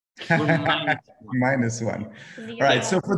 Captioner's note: laughing